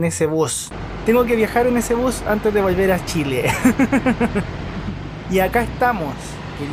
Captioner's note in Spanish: risas